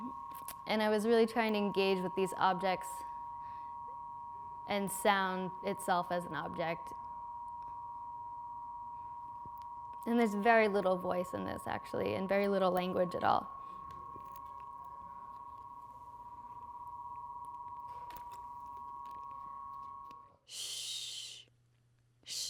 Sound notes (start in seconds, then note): 15.5 electronic humming; 20.5 voiceover